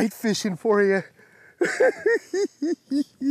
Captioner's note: laughs